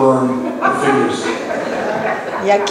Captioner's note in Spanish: laughs